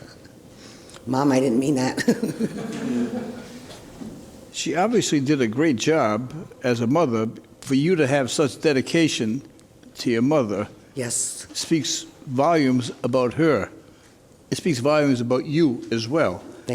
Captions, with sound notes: Mom I didn't mean that (laughs). (audience chuckles) She obviously did a great job as a mother for you to have such dedication to your mother. Yes. Speaks volumes about her. It speaks volumes about you as well.